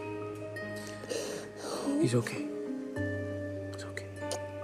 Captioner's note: breath quivering